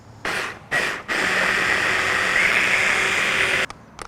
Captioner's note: food processor pulses